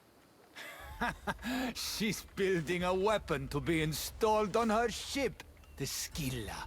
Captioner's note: laughs